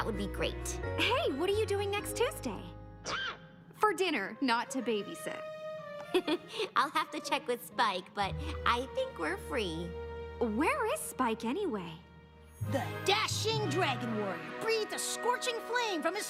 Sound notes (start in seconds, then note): 6.0 laugughs